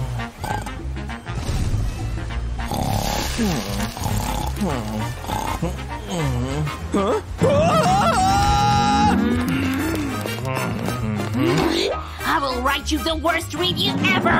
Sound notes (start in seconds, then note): 2.6 snoring